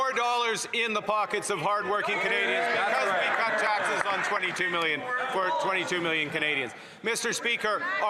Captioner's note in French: voix de l'interprète